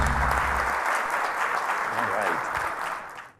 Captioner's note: audience applauds